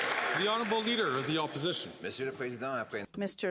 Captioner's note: some Applause